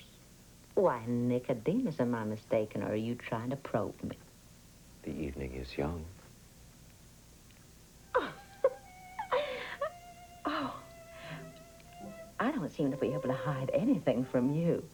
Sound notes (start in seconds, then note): 6.4 giggles